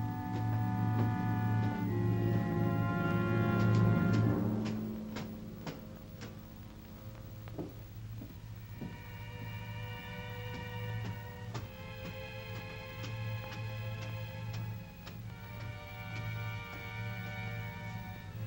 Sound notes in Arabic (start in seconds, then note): 0.0 موسيقى درامية مشؤومة; 0.1 خطوات على الدرج; 5.0 موسيقى مشؤومة; 18.2 موسيقى مشؤومة